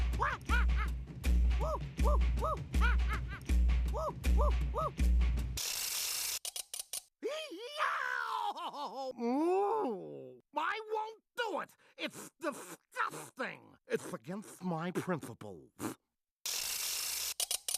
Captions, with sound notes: [crying] [muffled groaning] I WON'T DO IT. IT'S DISGUSTING! IT'S AGAINST MY PRINCIPLES.